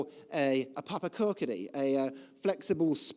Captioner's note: speaking foreign language